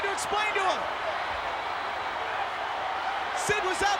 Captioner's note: crowd cheering